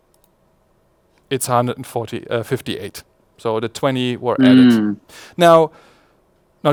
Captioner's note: murmurs